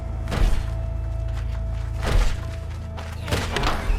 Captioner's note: banging on door